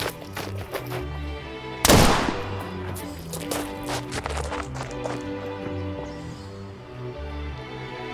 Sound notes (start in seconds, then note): 1.8 gunshot banging